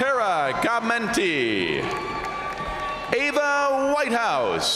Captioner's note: crowd cheering; crowd applauding; crowd cheering